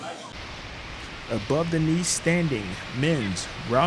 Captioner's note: water rushing